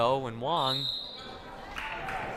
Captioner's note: whistle blaring; crowd applauding